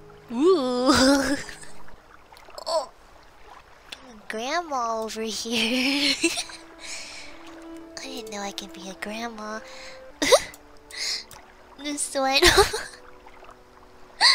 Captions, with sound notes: Uooh Grandma over here... I didn't know I could be a grandma *laughs* This one... *laughs*